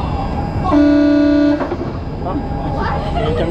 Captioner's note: loud horn